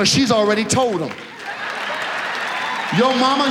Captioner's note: audience laughs